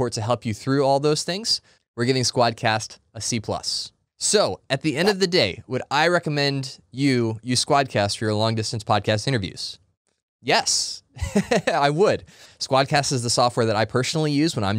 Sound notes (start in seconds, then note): 11.2 laughs